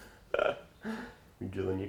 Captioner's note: laughs